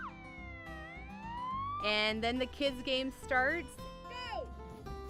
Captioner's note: siren sounds